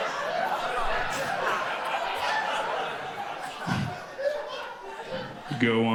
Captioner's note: audience continues laughing